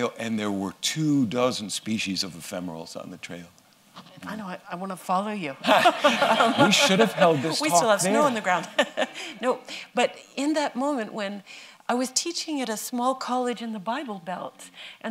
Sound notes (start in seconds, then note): 5.6 laughter